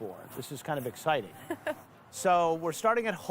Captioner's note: laughing